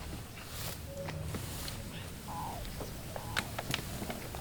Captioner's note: birds calling